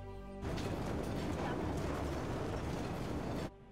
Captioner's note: street ambient sound